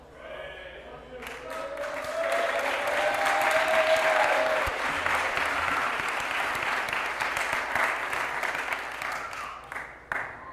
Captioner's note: applause